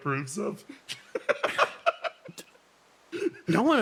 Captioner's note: laughs